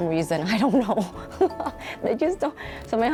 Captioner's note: laughs